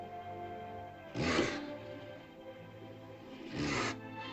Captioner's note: sentimental music; dinosaur snorts; romantic music